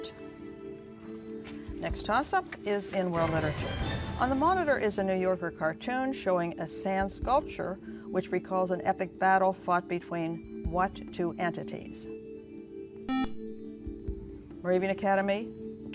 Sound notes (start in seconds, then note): 11.2 beep